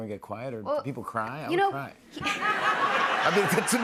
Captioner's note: laughter